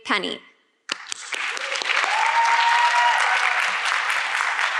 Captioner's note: audience clapping